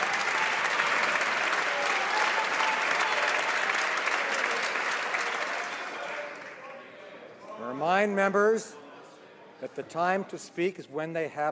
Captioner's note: some Applause